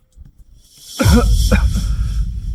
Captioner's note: cough